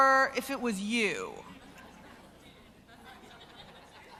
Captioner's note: crowd noise